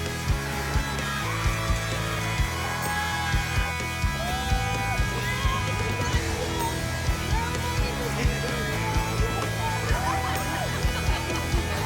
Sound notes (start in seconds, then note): 4.9 cheering